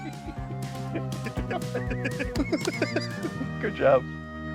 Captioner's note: laughing; upbeat music